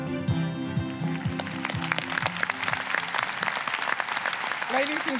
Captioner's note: lighthearted upbeat music; applause